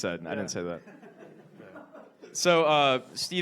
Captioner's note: audience laughs